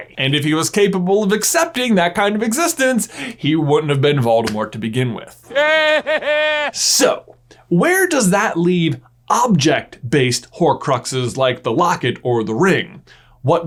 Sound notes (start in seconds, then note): 5.4 laughs